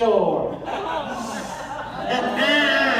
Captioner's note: laughter